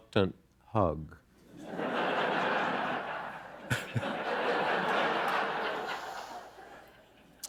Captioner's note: laughter